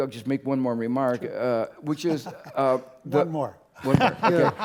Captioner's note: laugh